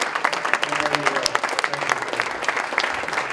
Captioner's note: applause